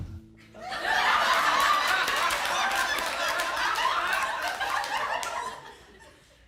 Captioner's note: audience laughs